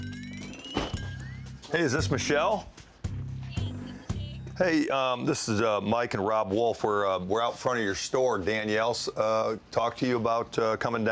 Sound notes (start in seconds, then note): 3.3 phone